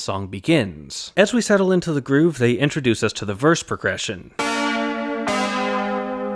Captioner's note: bang